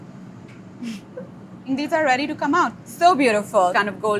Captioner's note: laughs